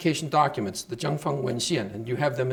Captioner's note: speaking Chinese